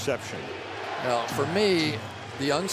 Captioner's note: crowd chanting "defense"